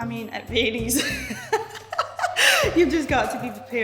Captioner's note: laughing